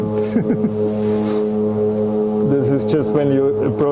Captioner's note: airplane humming on the video playback; laughing